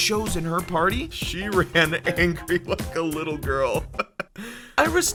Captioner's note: sarcastic laugh